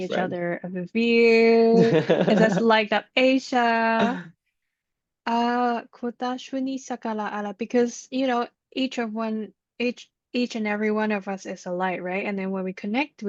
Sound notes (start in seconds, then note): 4.4 light language